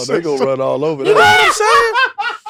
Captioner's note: laughs